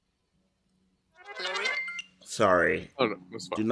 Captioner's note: phone chimes